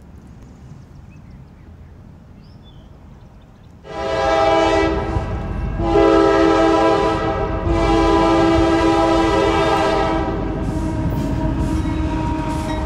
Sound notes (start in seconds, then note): 3.9 train whistle